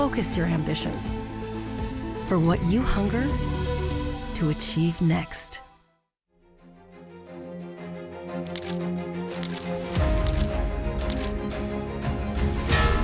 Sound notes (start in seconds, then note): 6.4 orchestral music; 8.4 camera shutter click; 11.8 orchestral music